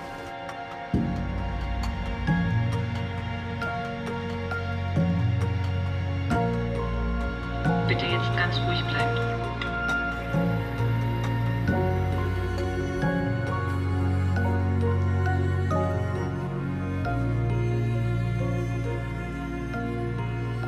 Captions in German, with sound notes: * getragene Musik * (Frau über Lautsprecher) "Bitte jetzt ganz ruhig bleiben." * getragene Musik *